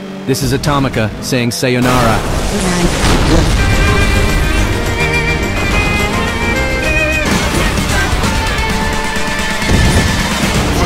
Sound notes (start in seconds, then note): 1.8 radio tuning sounds: The wrath of Radio